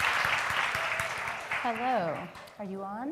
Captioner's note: applause